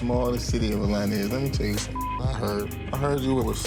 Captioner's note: beep